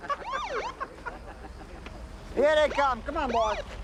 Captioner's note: laughing; siren wails